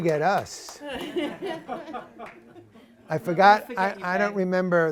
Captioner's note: laughter